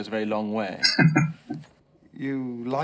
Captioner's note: chuckling